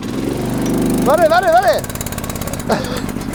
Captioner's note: Knatterndes Motorengeräusch